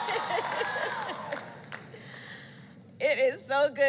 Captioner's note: applause